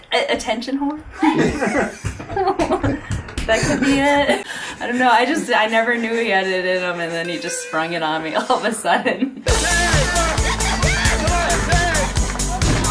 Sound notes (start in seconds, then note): 1.4 laughing; 9.4 upbeat techno music